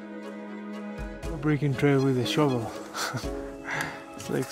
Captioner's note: laughs